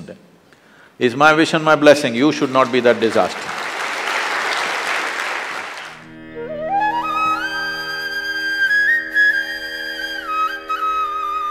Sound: applause

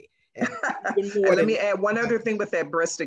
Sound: laughs

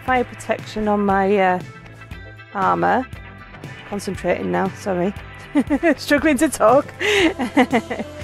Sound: laughing

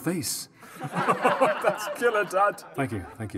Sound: laughter

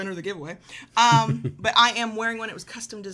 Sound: laughing

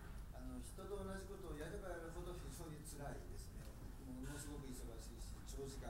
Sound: speaking in foreign language

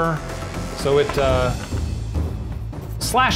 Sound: clattering

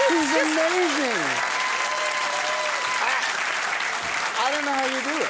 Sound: audience applauding

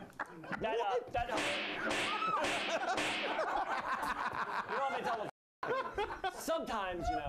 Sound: laughs; slap; laughter

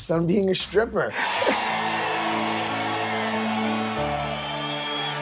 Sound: audience cheering

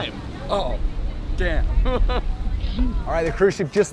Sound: laughs

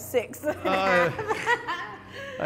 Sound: both laugh

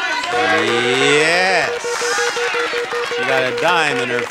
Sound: wheel beeping

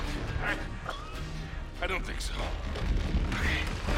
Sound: coughing

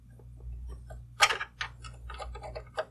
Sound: scraping

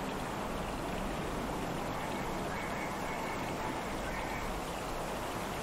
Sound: lake ambience, with distant, chirping animals

